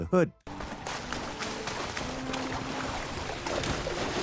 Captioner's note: water slapping